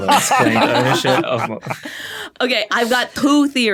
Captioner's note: group laughing